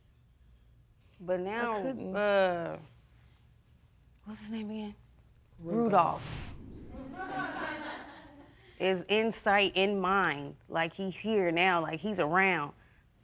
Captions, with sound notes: But now, uh... I couldn't. What's his name again? Rudolf. Rudolf... (AUDIENCE LAUGHING) Is in sight, in mind. Like, he here now. Like, he's around.